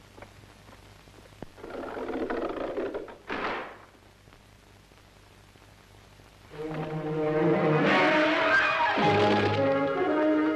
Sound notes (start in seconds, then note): 1.6 door clicking; 6.6 exciting orchestral music